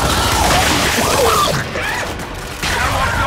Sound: gunfire

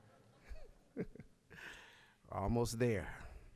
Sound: audience chuckling

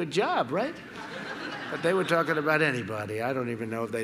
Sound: laughter

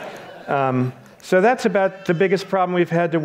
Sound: audience laughs

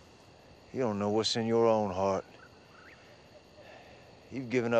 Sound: none

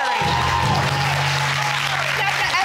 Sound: audience cheers

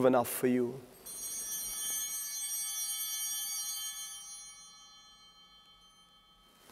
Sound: bells ringing

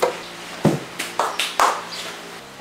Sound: clap

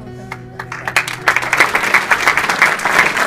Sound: applause

